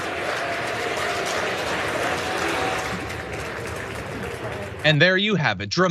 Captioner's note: applause